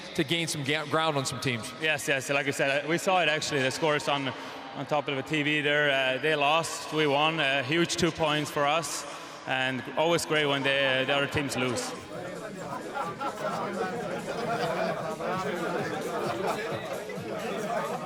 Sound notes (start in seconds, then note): 11.0 people laughing; 12.4 people chattering